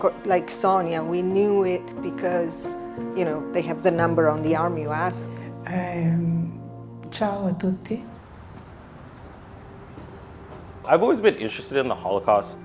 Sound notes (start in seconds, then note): 5.7 speaking in foreign language